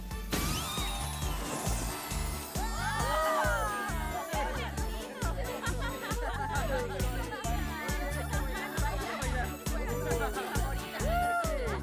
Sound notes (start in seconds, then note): 0.2 pop; 3.2 happy chatter